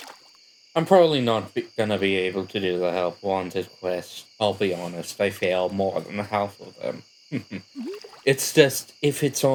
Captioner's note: chuckle